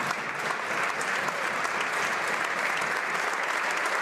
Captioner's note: some Applause; applause